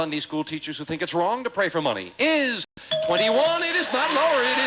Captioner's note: audience applauding